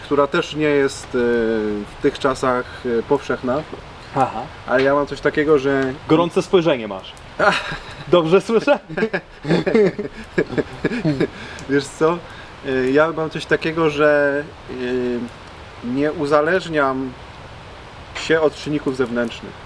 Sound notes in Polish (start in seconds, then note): 10.1 śmiech